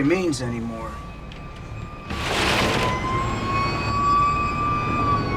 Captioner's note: city commotion